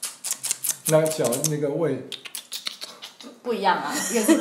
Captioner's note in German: 輕彈舌聲